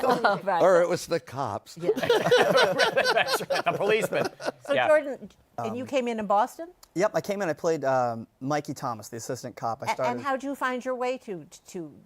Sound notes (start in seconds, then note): 1.9 laughter